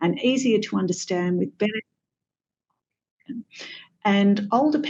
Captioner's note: audio cuts out